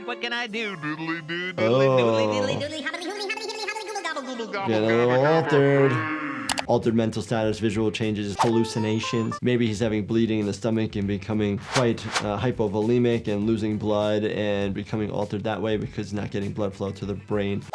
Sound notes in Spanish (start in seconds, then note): 2.7 discurso acelerado; 5.4 habla deformada y ralentizada